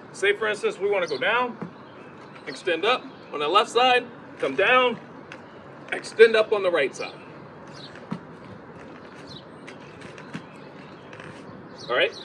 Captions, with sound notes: Say for instance, we wanna go down, extend up on that left side, come down, extend up on the right side. (ball tapping ground)